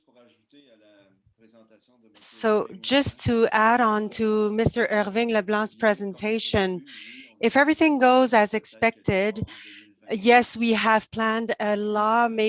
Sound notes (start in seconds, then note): 1.2 foreign language